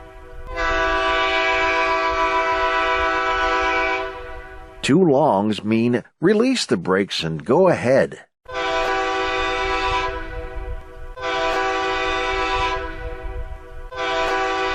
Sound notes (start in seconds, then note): 8.9 horn blasts